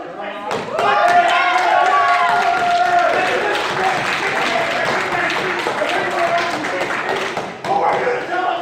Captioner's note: crowd cheering